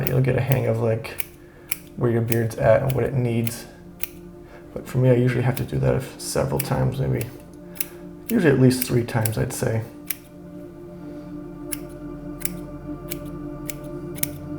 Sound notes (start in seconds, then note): 10.6 scissors snipping